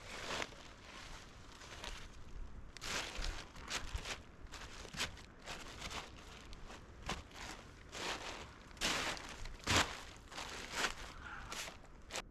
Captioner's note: wind blowing